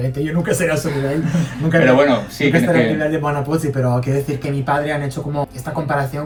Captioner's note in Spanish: risas